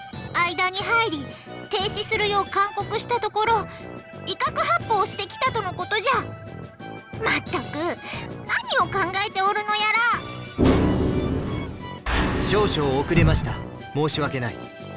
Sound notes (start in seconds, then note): 7.3 sigh